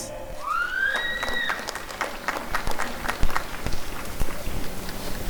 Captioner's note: applause and cheering